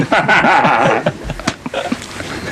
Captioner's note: they both laugh